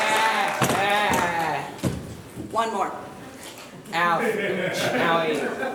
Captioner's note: applause